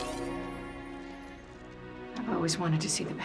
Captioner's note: none